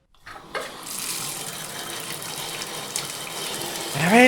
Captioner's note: shower